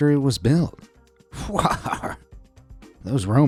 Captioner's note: chuckles